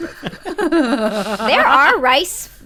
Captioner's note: laughter